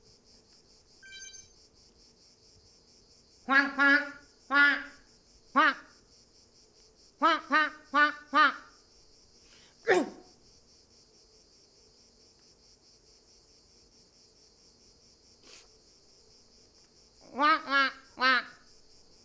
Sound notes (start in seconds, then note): 1.1 device turning on; 9.6 sneezing